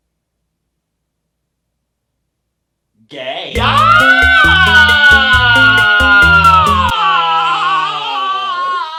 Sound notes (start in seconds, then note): 3.5 all screaming